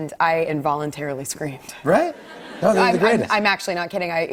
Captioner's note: laughter